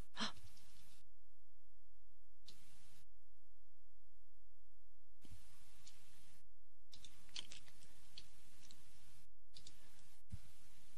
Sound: typing

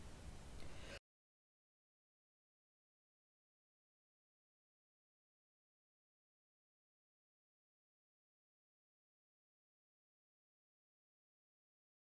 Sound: silence

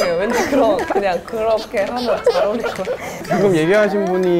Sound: tears

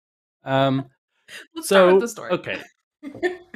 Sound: laughs

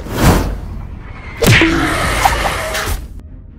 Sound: painful monster groan

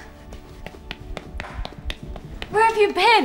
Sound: running footsteps

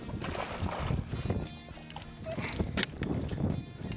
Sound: fish splashing

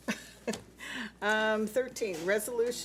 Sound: laughs

